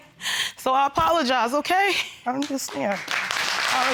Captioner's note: sniffling